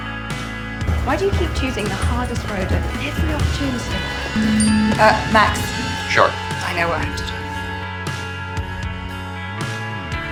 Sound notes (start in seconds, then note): 4.3 phone buzzing